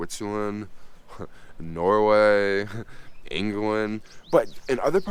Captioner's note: chuckles